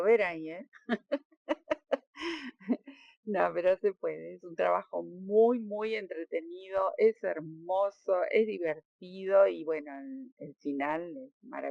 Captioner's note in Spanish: risas